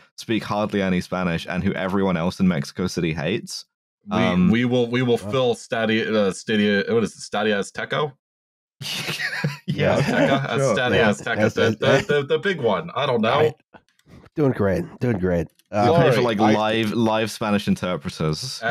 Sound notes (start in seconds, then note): 8.8 laughs